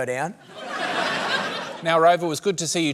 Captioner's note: laughter